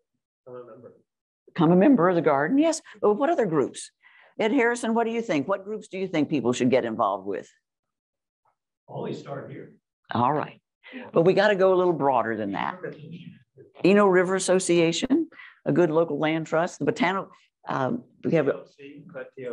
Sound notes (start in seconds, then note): 0.2 off mic; 8.5 off mic; 16.9 off mic